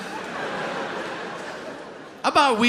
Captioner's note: audience laughing